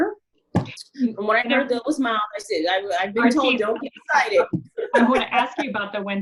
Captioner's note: laughs